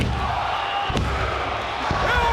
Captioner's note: crowd counts; referee taps